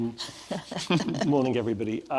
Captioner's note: laughs